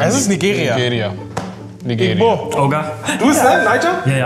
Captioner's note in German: Sie sprechen eine andere Sprache